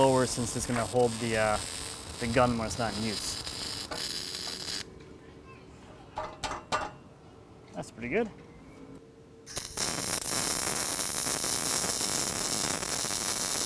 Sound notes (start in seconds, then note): 3.1 welding electrode sparking; 6.2 hitting the metal; 9.4 welding electrode sparking